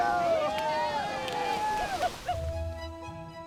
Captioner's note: all cheering; uplifting music